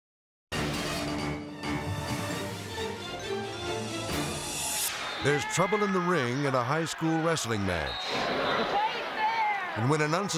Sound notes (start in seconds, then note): 0.6 intense music; 7.8 whistle tweets